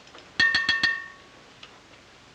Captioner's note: tapping plate